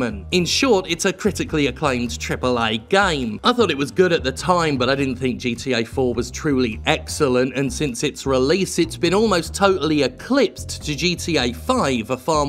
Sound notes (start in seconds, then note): none